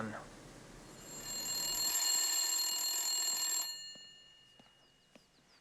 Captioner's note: telephone ringing